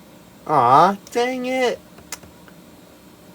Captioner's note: lip smack